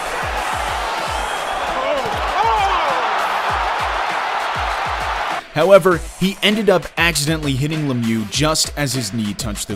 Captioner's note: crowd roaring